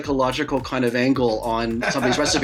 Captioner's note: laughs